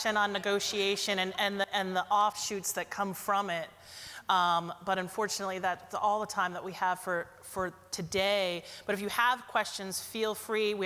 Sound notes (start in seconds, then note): none